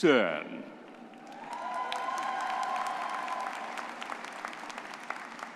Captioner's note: crowd cheering